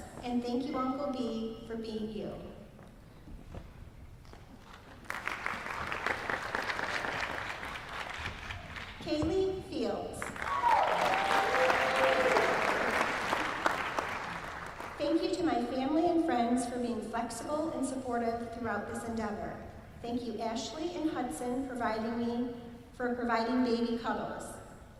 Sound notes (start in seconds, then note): 4.6 applause; 10.2 applause